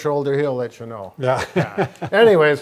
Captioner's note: laughing